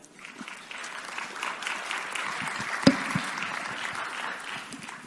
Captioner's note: audience applauds